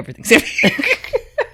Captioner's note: laughs